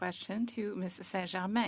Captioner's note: speaking French